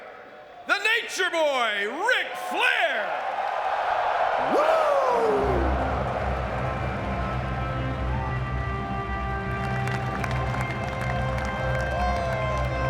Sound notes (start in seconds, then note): 4.5 audience clapping; 5.4 dramatic music